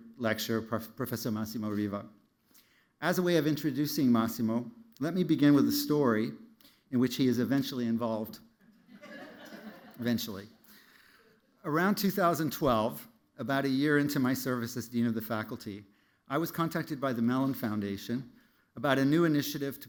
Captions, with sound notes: lecture, Professor Massimo Riva. As a way of introducing Massimo, let me begin with a story in which he is eventually involved. [LAUGHTER] Eventually. Around 2012, about a year into my service as dean of the faculty, I was contacted by the Mellon Foundation about a new initiative